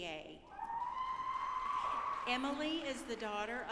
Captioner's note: audience applauding